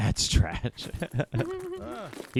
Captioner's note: laughing